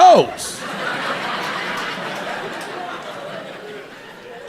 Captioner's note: audience laughing